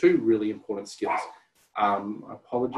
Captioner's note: dog barks